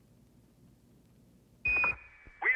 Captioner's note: beeps